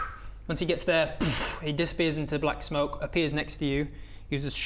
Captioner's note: poof